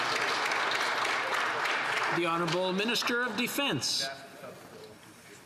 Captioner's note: some Applause